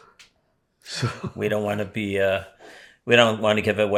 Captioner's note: laughing